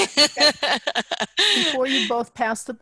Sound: laughs

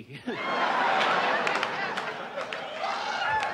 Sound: audience laughs

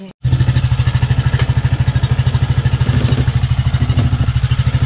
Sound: motor rattles

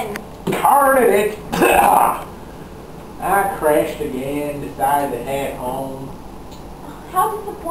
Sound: cough

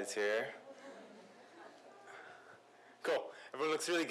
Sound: laughter

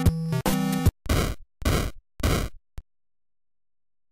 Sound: weapon firing

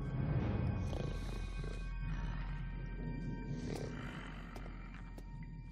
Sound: snoring

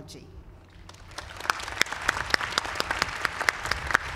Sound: applause

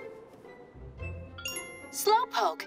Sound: chimes

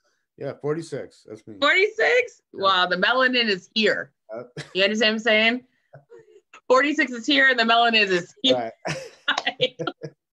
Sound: laughs

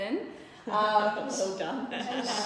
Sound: laughing

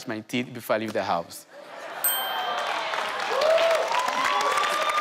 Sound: audience cheers

